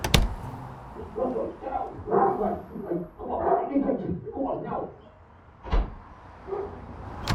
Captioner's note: muffled chatter & barks